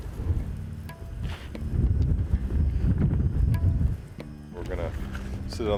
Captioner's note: wind blowing